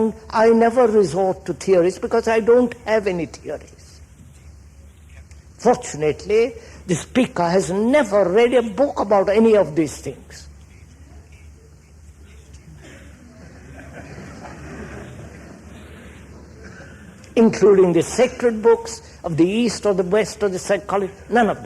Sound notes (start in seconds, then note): 13.3 laughter